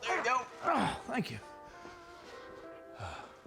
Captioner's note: groaning